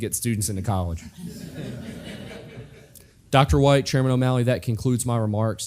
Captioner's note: laugh